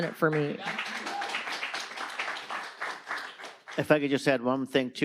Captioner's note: audience applauding